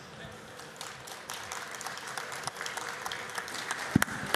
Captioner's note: applause